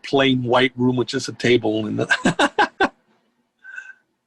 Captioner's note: laughs